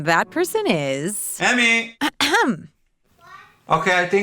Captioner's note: coughs politely